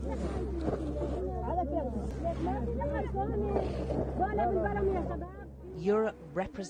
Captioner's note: water splashes